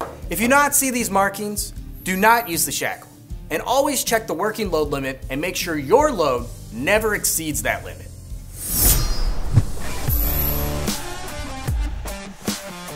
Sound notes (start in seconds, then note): 8.4 animation swishing; 9.0 intense rock music